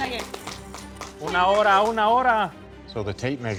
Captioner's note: speaking Spanish